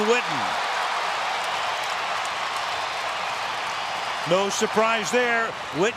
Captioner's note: cheering